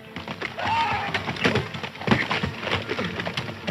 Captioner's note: horse neighs